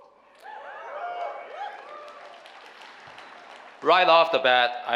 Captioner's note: cheering whoo hoos from audience